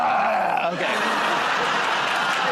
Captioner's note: grunts